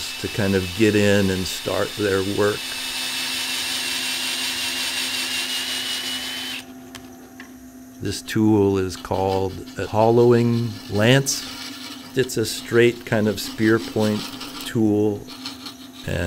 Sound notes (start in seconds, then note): 2.8 auger whirring